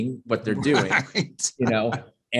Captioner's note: chuckles